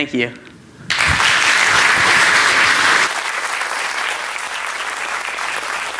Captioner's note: applause